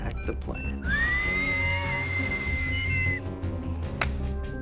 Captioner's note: starts whistling